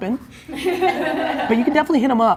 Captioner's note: laughing